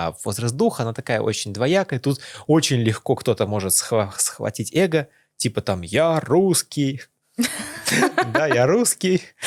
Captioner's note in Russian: смех